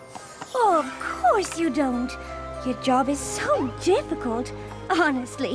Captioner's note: sweetly